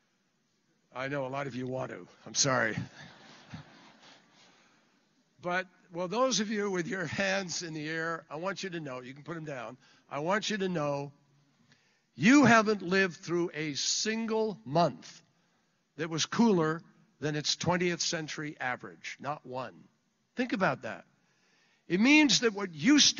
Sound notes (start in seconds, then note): 3.1 laughter